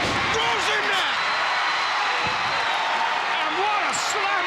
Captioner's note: audience cheering